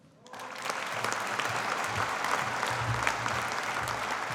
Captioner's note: audience applauding